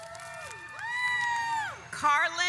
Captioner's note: audience applauds